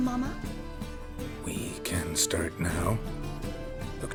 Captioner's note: hesitantly